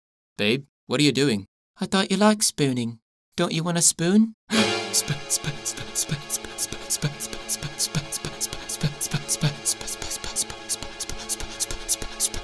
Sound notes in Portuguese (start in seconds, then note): 5.6 Suspiros